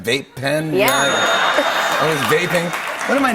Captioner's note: ding!